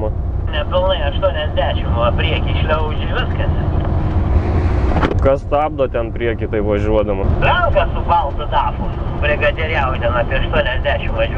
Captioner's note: people talking on the CB radio